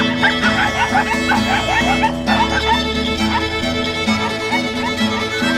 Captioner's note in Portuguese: buzina de moto e triha sonora animada